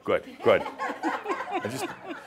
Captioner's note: some laughter